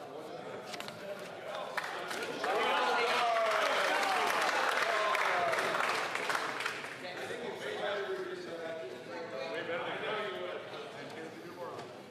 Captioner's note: some Applause